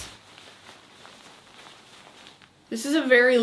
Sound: shirt rustles

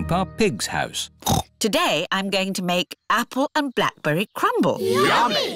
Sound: snorts

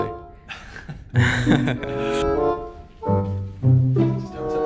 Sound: laughs

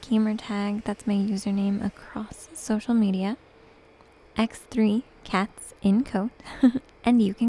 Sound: giggles

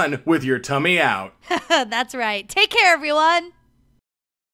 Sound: chuckling

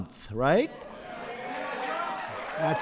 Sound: applause

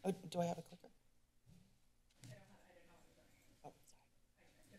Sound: silence

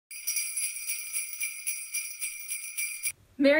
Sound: bells jingling

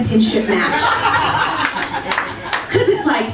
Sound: laughter

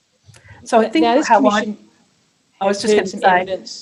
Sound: audio distorted

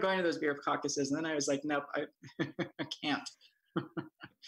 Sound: laughing

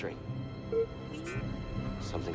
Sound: boop-beep

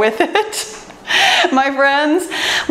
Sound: laughs

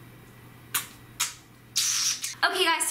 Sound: blowing kisses

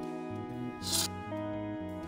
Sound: sword unsheathe

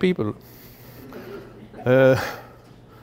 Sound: laughter

